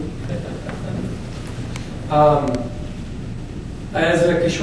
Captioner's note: attendee laughs